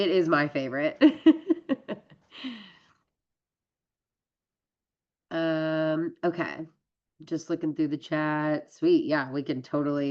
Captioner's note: laughs